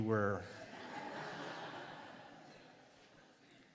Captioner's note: laughter